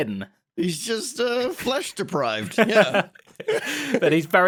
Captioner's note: laughs